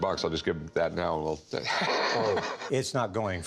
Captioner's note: chuckling